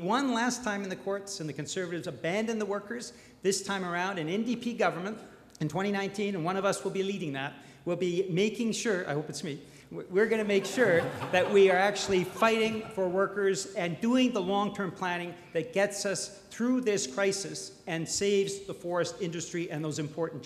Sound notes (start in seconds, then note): 12.3 crowd laughs